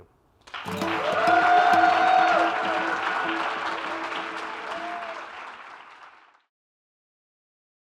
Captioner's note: applause